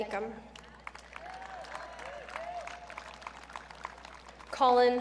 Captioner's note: audience cheering